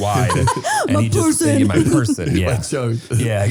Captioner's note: laughing